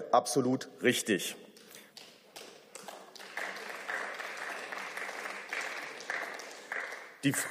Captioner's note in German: Beifall